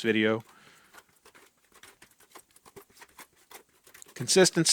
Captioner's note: utensil lightly smacks sides of bucket